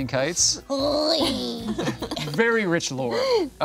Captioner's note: imitating Creature groaning; group laughing